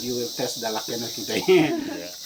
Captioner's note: laughing